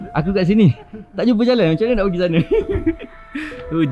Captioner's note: laugh